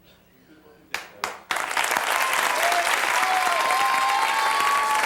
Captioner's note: audience applauds